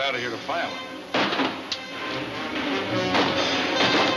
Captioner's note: guns firing